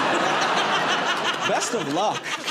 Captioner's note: laughter